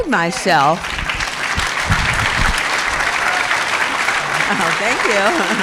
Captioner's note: crowd applauding